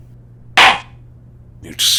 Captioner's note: gavel slams!